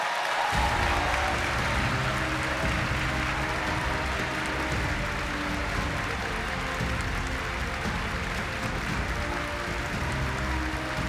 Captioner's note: applause